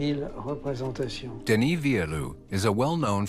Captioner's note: narrator in English